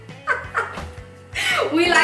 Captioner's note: laughing